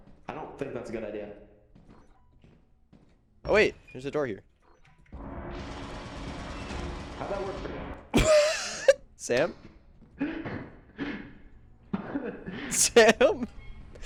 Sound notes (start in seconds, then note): 5.1 Turret fires